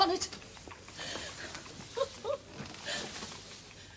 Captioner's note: chuckles